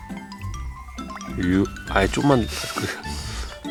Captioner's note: a gentle pour